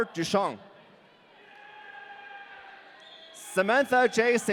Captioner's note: audience cheering